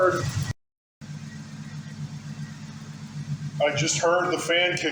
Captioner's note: engine idling